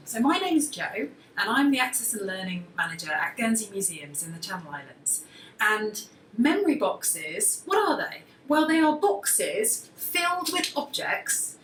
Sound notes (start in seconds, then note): none